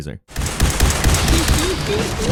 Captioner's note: gunshots banging